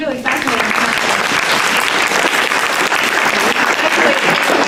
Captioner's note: applause